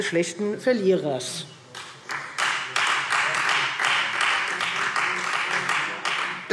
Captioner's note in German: Beifall Freie Demokraten